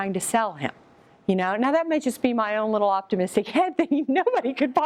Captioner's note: laughs